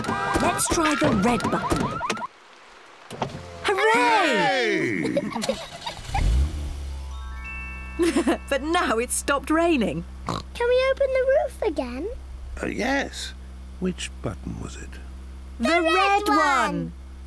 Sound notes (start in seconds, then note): 2.7 alarm stops; 4.6 all laughing; 5.4 engine starts; 8.0 laughs; 10.2 oinks